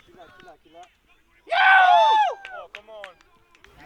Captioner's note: cheering and Applause